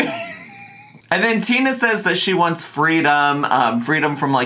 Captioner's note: laughs